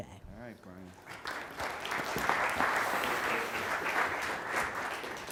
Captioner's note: audience applauding